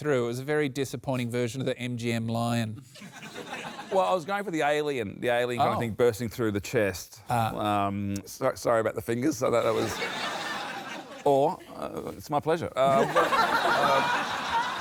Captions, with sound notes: it was a very disappointing version of the MGM lion. Well, I was going for the alien, the alien kind of thing bursting through the chest. Ah. Um, sorry about the fingers. I thought that was... (LAUGHTER) Or it's my pleasure. (LAUGHTER)